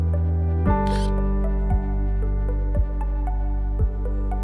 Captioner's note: bright music; graphics buzzing; bright music